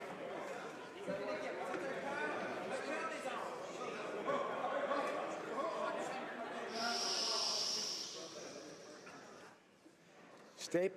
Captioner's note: speaking French